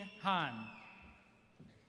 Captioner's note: applause